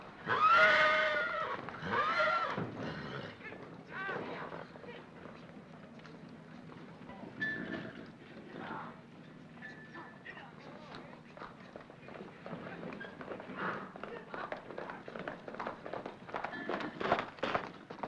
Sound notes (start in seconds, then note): 0.0 hoofbeats; 0.2 horse neighs loudly; 7.4 horse snorts; 10.2 hoofbeats